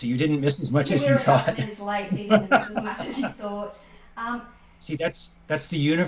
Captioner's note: laughter